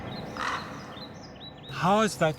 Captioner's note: crow cawing